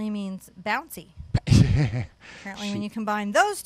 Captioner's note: laughs